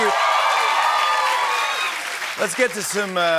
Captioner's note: cheers and applause